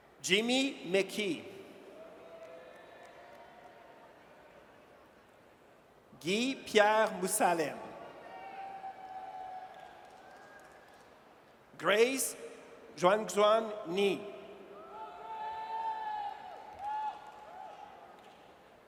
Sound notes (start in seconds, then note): 8.2 audience cheers; 14.8 audience cheers